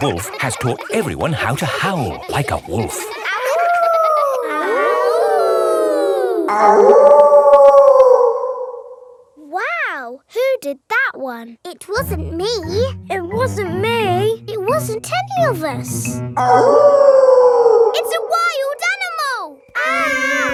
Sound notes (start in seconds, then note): 3.3 howling; 5.1 kids howling; 7.1 wolf howling loudly; 16.4 wolf howling loudly